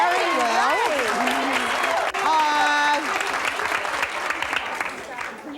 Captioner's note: applause drowns out